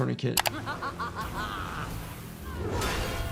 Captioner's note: character laughing